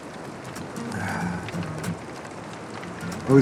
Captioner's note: Rick sighs